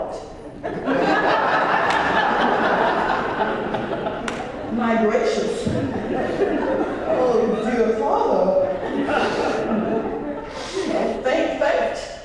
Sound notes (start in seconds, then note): 0.6 laugh; 8.5 laugh